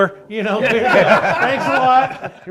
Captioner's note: everyone laughing